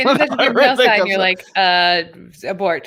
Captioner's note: laughing